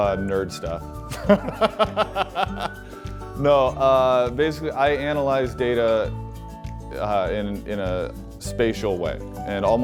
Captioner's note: laughing